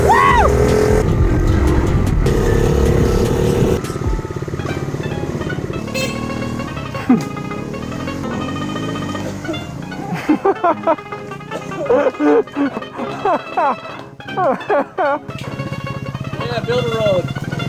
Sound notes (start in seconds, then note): 10.7 laughing; 13.1 more laughing